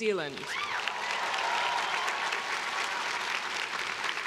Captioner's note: crowd cheering